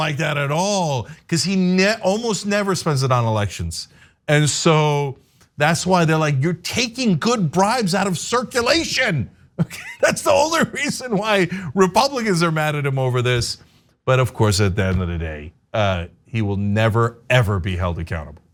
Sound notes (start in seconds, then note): 9.6 laugh